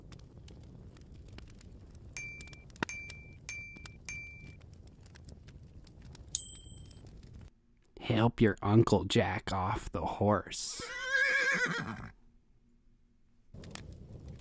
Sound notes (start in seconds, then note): 2.2 ping; 10.7 horse neighs